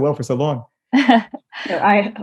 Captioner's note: laughing